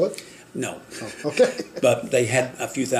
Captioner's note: laughing